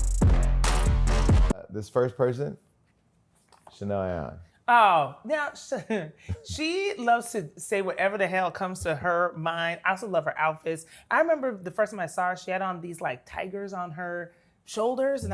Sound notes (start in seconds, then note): 6.2 laughs